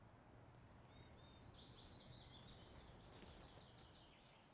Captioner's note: birds singing